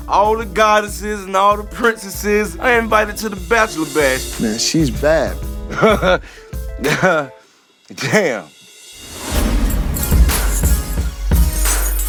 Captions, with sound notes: all the goddesses and all the princesses are invited to the bachelor bash. Man she's bad. (chuckles) Damn! (upbeat music)